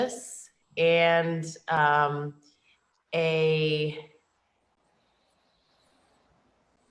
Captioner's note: a pause